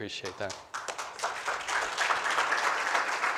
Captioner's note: applause